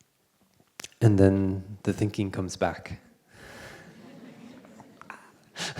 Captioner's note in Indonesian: Suara tertawa